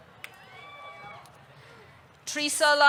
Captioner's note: audience cheering